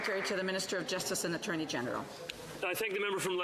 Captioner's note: some Applause